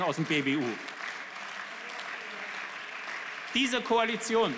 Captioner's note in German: Beifall